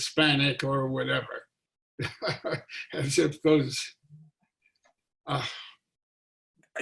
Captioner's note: laughing